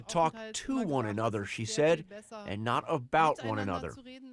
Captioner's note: speaking foreign language